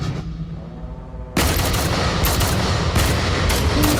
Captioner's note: gun fires